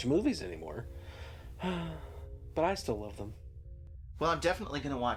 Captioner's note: sighs